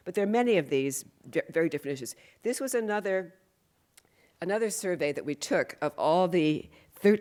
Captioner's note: none